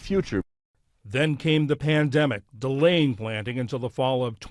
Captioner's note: voice-over